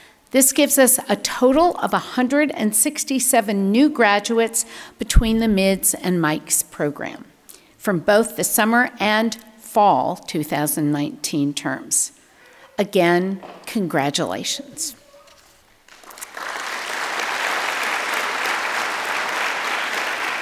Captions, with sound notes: This gives us a total of 167 new graduates between the MIDS and MICS program, from both the summer and fall 2019 terms. Again, congratulations. (audience clapping)